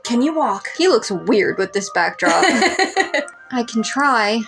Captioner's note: laugh